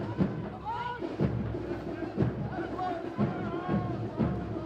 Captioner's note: multiple Troop Commanders shout direction; drums